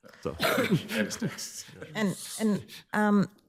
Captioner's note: group laughing